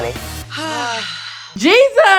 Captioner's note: sigh